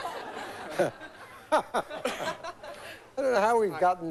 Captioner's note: laughter